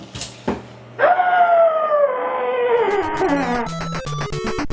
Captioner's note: scream in a pillow